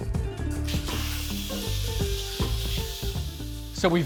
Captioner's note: air hissing